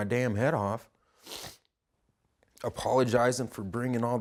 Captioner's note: sniffing